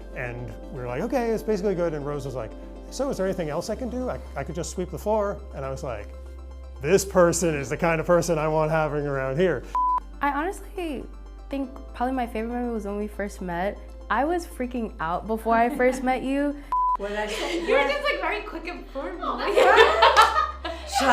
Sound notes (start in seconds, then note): 9.7 beep; 16.7 beep; 19.4 laughs